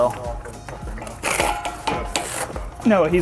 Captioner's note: metal clanking